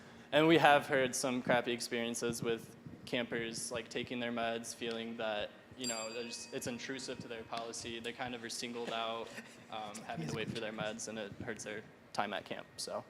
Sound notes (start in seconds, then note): 5.8 ding